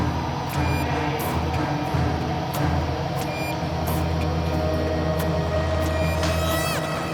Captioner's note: dramatic music; air tank beeping